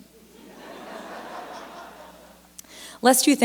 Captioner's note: laughter